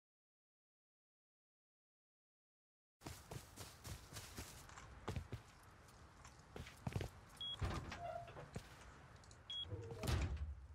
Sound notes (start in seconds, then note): 3.0 footsteps; 7.5 door creaks